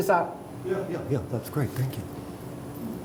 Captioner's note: voiceover